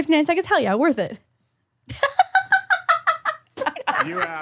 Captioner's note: laughing